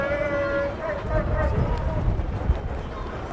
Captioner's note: fan yells